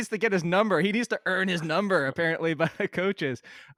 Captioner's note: laughs